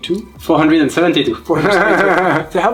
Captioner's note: laughs